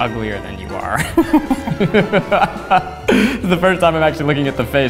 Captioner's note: laughs